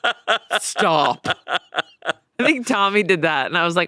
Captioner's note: laughs